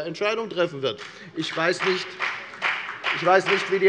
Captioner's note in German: Beifall bei der FDP und bei Abgeordneten der SPD